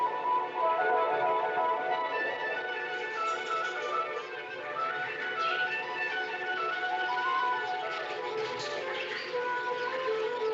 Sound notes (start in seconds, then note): 2.6 birds Chirping